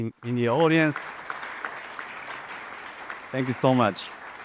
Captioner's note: audience applauding